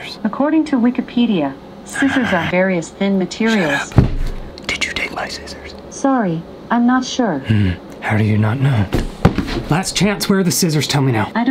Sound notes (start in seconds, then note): 0.0 whispers; 4.6 whispering